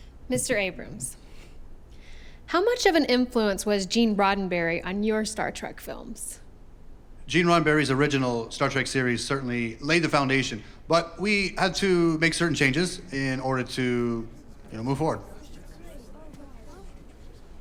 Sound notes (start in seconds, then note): none